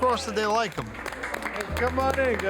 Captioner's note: staff applauding